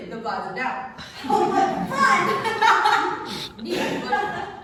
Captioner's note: laughs